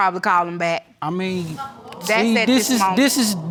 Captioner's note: audience gasps